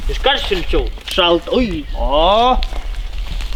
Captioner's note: brrr